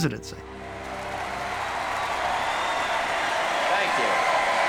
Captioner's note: cheering